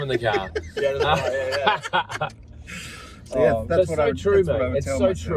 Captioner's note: group laughs